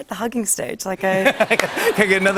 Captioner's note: laughter